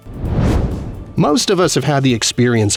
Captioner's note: whoosh